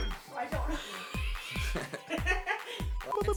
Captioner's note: laughing